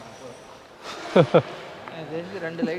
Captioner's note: laughing